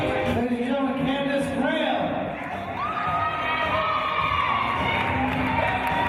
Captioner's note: cheers from team